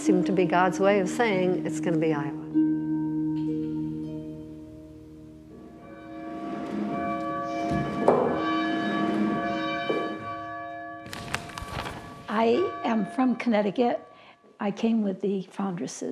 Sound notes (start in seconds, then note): 5.5 bell ringing